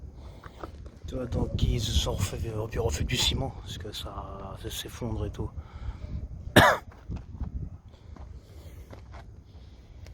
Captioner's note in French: toux